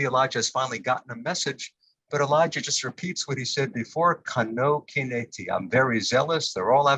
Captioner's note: Hebrew